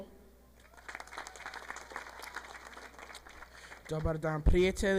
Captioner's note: audience applauding; speaking in foreign language